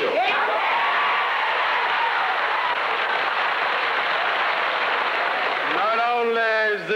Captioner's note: cheering and applause